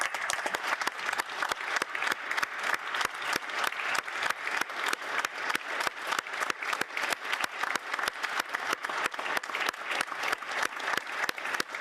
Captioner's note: applause